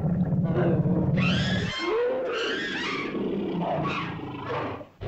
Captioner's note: dinosaur cries out; dinosaurs growl & snarl